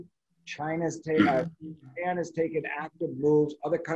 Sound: voice muffling

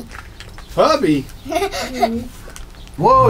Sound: laughs

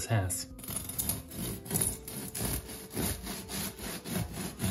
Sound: knife rasping

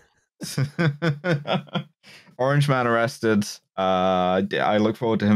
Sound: laughter

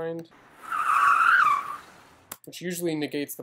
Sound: tires screeching

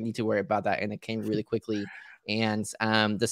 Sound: chuckling

